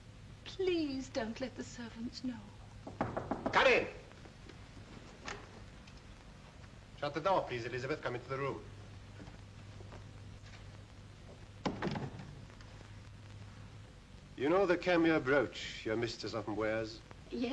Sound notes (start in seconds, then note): 2.8 knocking on door; 5.1 door opens; 11.6 door closes